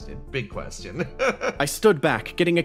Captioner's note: laugh